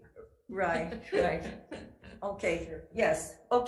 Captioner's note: laughing